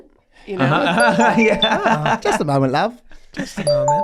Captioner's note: internet phone ringing